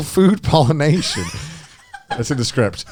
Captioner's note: laughing